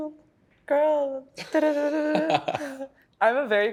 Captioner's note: laughs